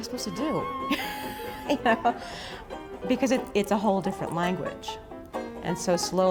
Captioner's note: laughing